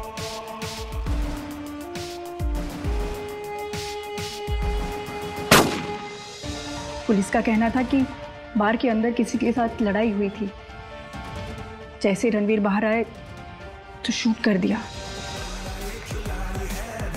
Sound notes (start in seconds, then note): 5.4 gun shot